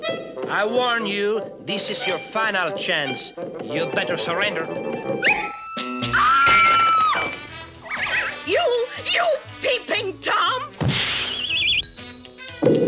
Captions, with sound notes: I warn you, this is your final chance. You better surrender. [woman screams] You... You peeping Tom!